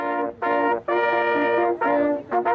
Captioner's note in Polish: sygnał hejnałówek